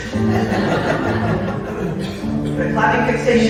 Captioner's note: laughter